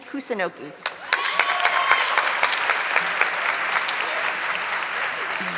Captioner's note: audience clapping